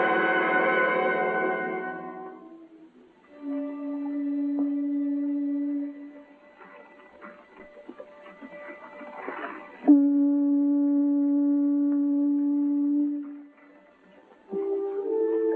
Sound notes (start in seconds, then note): 3.2 conch shell blowing